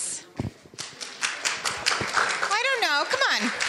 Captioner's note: audience applauding